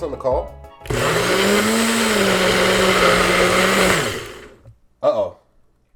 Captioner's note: blender sound